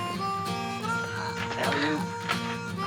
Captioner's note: groaning